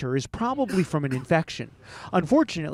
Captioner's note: coughing